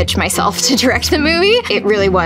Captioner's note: laughing